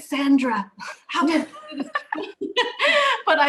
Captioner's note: laughter